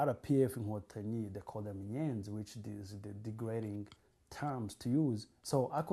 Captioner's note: non-english